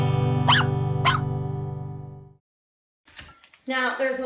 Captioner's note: dog barking